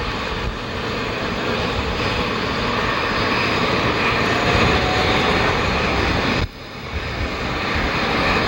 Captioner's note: propellers whirring